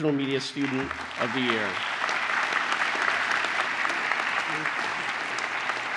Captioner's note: applause